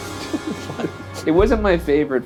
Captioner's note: laughing